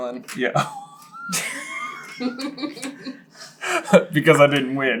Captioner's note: laughter